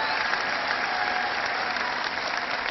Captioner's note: cheering